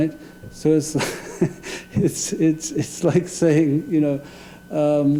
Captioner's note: laughing